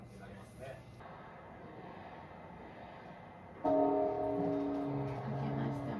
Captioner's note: temple bell rings: GONG